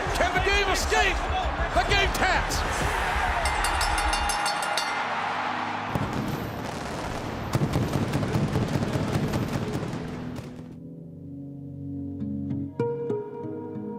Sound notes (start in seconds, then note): 3.4 bell rings; 6.0 pyrotechnics rumbling; 10.8 light music